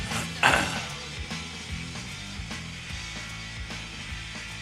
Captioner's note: clears throat